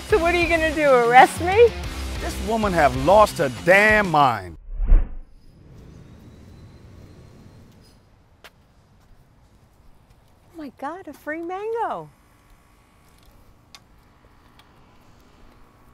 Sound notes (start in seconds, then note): 5.9 birds singing; 8.4 footsteps